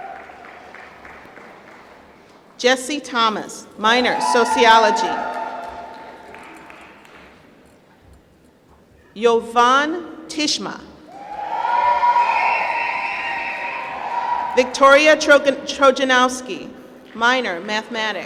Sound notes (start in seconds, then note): 0.0 applause; 4.1 applause; 11.2 applause